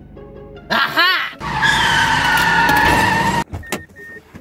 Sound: tires screeching

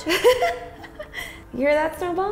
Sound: laughing

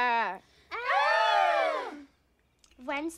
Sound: fake screaming

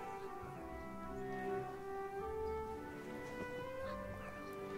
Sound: boy whispering

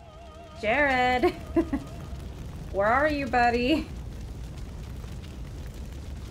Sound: nervous chuckle

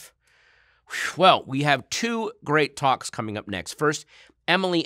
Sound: exhales

